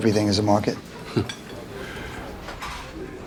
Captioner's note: Logan chuckles